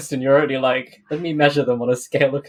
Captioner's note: laughs